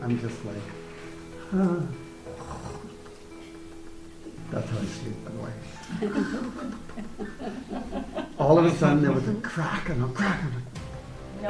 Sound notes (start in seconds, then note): 5.8 group laughs